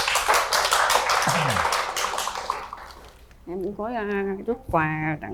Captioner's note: applause